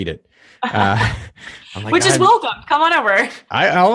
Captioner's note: laughs